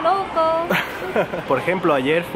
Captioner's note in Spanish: se ríe